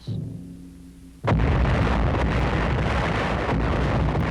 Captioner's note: booming